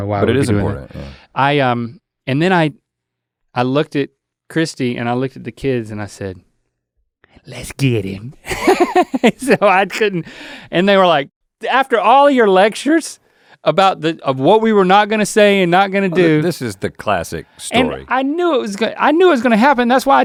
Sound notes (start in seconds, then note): 8.5 laughs